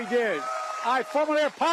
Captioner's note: cheering